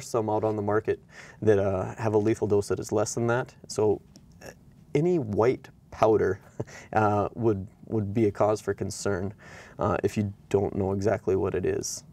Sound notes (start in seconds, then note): 6.4 chuckles